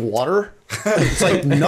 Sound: chuckle

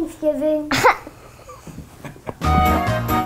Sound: laughter; festive music

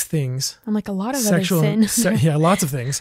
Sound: laughs

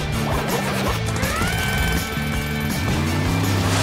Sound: whirring

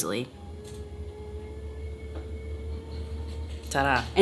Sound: desk buzzes

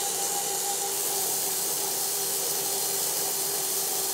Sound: saw buzzes

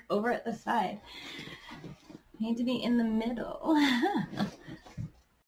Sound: giggles

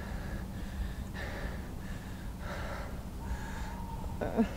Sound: groans

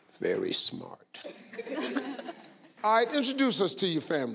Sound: laughing

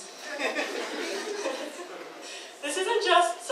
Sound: audience laughs

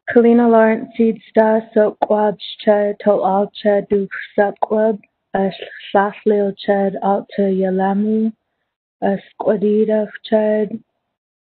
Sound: speaking in native language

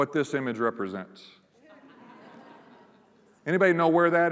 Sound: laughter

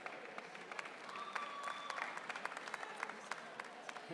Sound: audience cheering

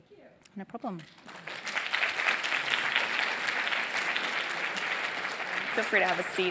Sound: applause

